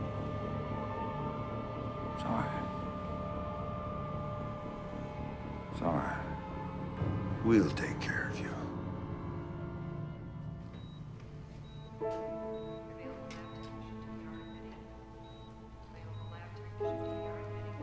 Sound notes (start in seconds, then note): 10.6 monitor beeping; 11.0 tense piano music